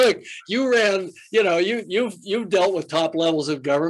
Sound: Jim laughs

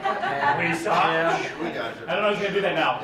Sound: laughing

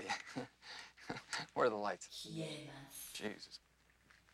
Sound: woman's voice in japanese

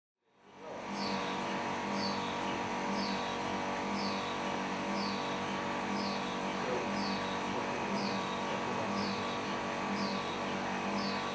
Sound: noise of a machine whirring

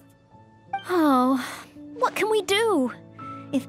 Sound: sigh

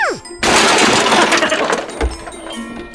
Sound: tree crashing; Grinch laughing

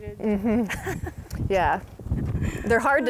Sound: laughing

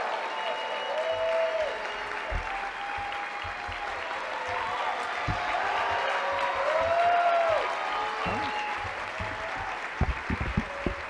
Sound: applause

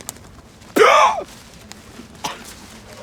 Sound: coughing

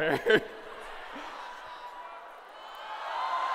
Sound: laughter; shouting

